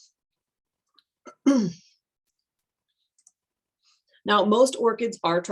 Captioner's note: clears throat